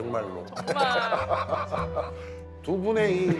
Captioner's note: laughs